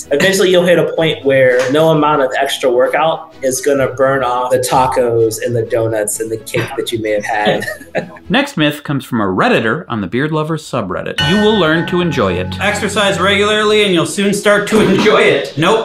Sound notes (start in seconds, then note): 6.5 laughing; 11.2 chime sounding